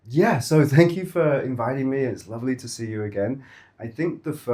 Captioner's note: none